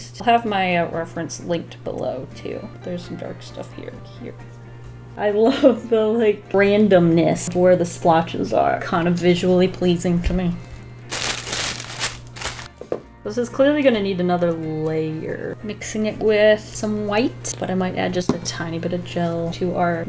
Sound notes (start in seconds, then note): 11.1 tissue paper rustling